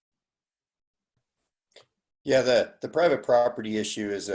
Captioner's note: none